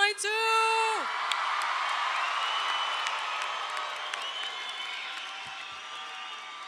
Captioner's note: audience cheers; audience applauds